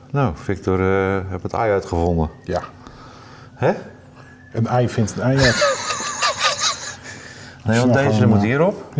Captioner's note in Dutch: gelach